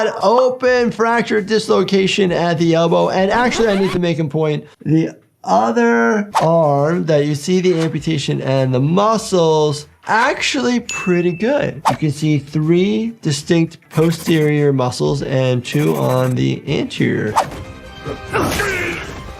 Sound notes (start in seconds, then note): 3.2 record scratching; 10.9 bell dinging; 17.4 Mauler clone groaning